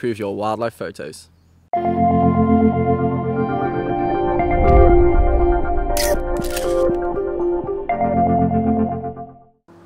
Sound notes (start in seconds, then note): 1.8 gentle upbeat music; 6.0 camera clicking